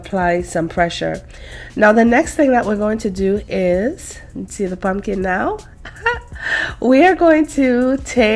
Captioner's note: laughs